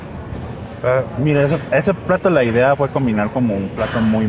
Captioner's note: speak in Spanish